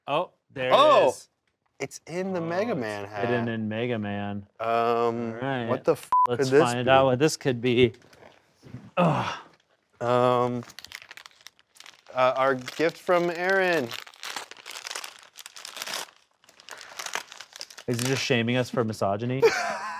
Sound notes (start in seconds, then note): 6.0 beep; 14.4 paper rustles